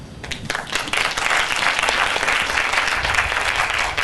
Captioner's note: applause